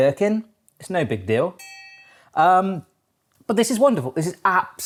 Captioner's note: bell chimes